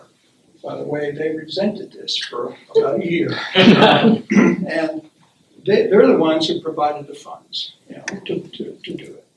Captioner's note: laughter